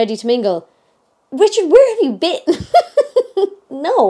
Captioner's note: laughing